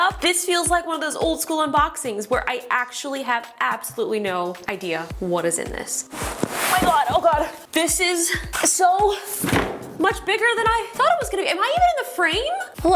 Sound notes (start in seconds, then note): 6.0 box rustles; 9.3 box thuds